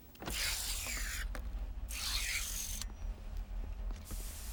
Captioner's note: mechanical buzzing